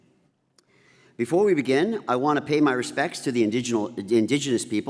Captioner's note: none